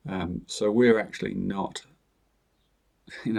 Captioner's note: chuckles